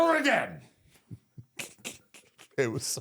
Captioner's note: both giggle